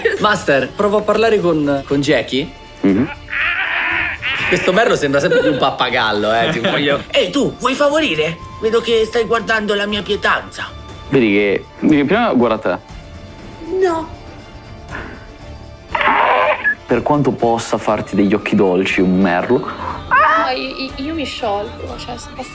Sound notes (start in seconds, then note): 2.8 squawks; 15.9 squawks